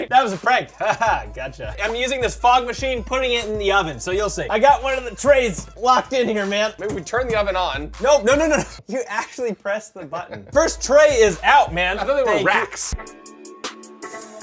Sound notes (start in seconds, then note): 9.9 chuckles; 12.7 cool music